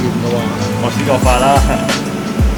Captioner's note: chuckles